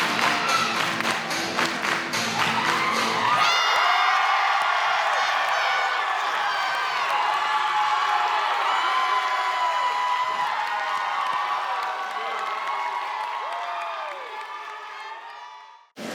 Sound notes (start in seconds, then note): 0.2 applause; 3.3 applause